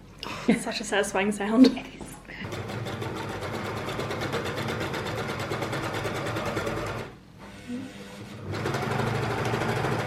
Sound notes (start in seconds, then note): 4.5 machine noise